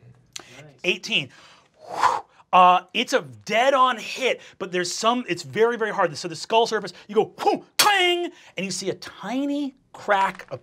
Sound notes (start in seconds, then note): 1.5 whooshes